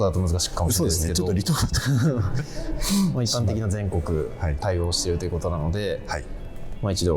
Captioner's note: laughs